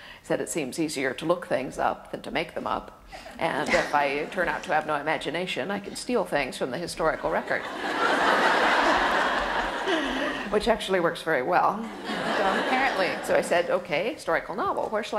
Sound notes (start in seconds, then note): 3.3 laughter; 7.4 audience laughter; 11.9 laughter